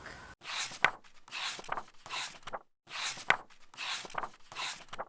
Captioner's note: page turning